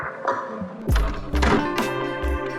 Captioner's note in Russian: вскрытие двери